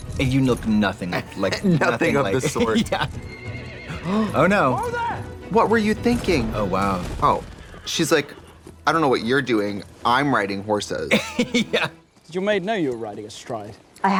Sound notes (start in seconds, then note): 3.1 horse neighs; 3.9 Trixie gasps; 11.1 laughing